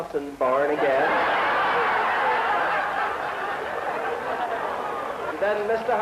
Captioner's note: laughter